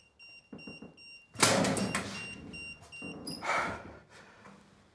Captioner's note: locker door clunks; Wes breathing heavily